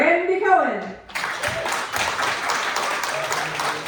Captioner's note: clapping